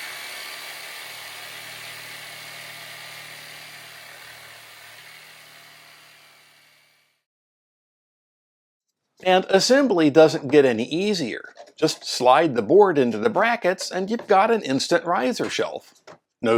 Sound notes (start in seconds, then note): 0.0 sawing noises